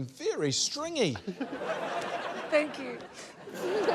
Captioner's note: laughter